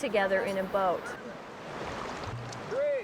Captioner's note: water rushing